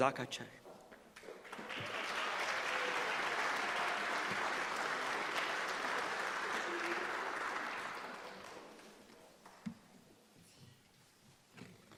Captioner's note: applause